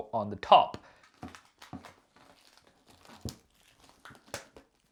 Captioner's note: paper rustling